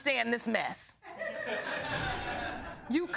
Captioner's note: audience laughing